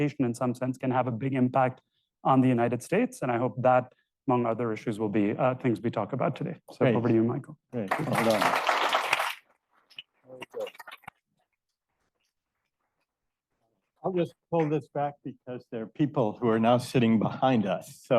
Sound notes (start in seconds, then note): 7.9 crowd cheering